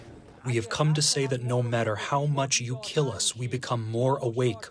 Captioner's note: through translator